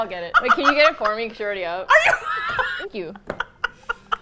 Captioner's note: laughs; in disbelief; laughs